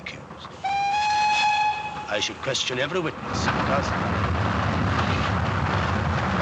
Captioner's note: train Whistle Toots